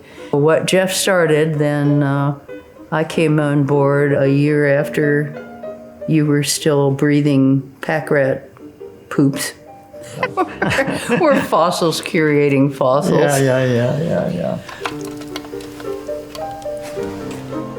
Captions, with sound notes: What Jeff started, then I came on board a year after. You were still breathing pack rat poops, (laughing) were fossils curating fossils. Yeah, yeah, yeah, yeah, yeah. (soft music)